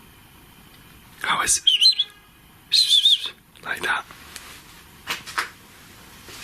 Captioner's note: whistles